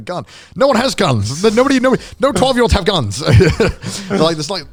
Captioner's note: laughing